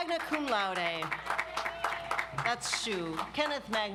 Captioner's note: audience applauds